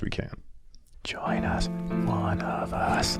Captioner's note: whispering; chanting